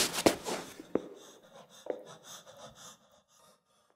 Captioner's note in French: bruits de pas dans le couloir